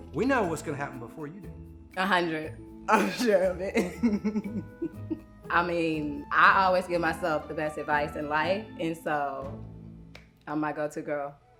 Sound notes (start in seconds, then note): 3.8 laughing